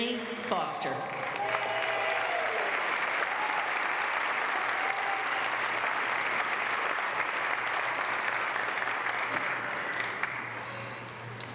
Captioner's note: applause